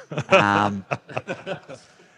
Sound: group laughing

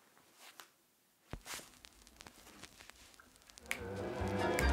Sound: record scratches

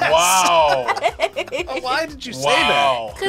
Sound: laughs

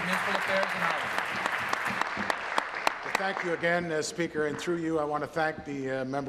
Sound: applause

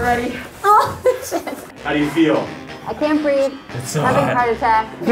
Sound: laughing

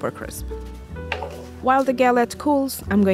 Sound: pan clanks

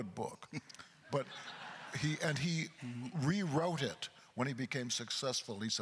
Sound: crowd laughter

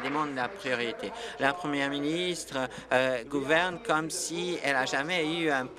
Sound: applause

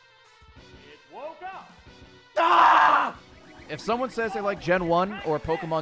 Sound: screams

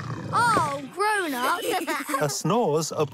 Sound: snoring; laughing

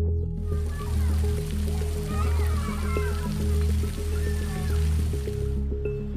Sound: water splashing; kids shouting

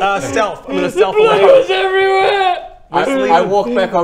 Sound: sobbing loudly

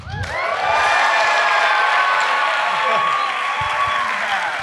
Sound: audience cheers and claps

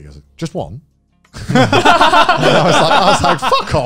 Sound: everyone laughs

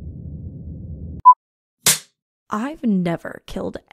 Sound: beep

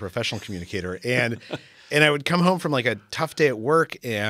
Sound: laugh

